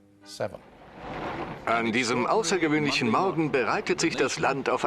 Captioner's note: voiceover